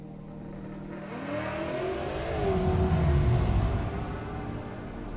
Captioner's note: mellow music; car engine roaring